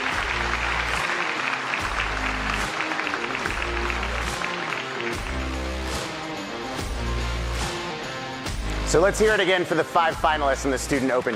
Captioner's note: applause